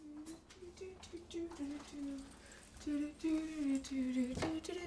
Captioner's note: hums